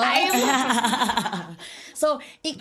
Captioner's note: laughs